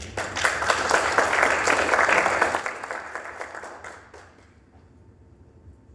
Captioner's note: applause